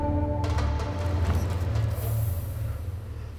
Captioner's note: wind blows